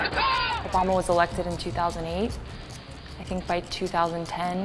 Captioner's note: voiceover